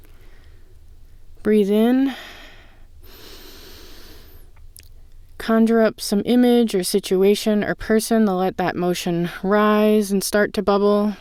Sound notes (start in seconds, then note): 3.0 inhale